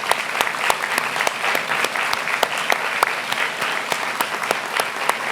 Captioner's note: applause